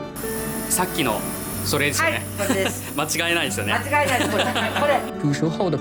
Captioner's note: laughs